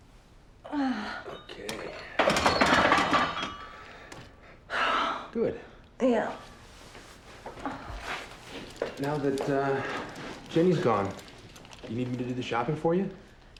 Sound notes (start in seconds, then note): 1.0 straining; 1.0 weights clattering; 3.7 exhales